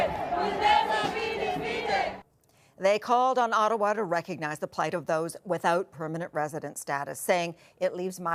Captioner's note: chanting